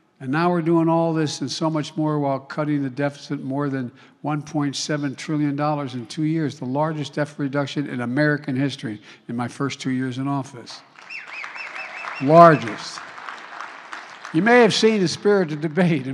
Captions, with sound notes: And now we're doing all this and so much more while cutting the deficit more than $1.7 trillion in two years, the largest deficit reduction in American history, in my first two years in office. (Applause.) The largest. You may have seen the spirited debate